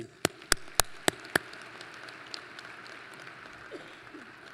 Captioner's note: applause